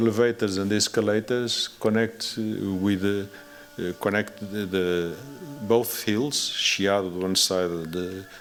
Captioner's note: non-english